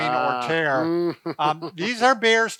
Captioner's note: chuckles